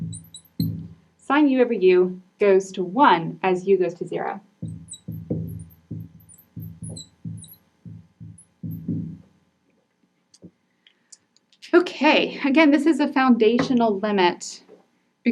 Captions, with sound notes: sine u over u goes to 1 as u goes to zero. (marker scratching) (marker knocking) Okay, again, this is a foundational limit